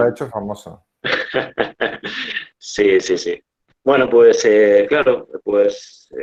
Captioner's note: Risas